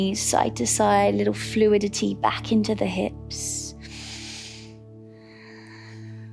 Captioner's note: inhales; exhales